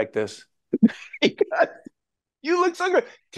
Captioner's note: Joe laughing